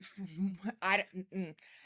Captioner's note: laughs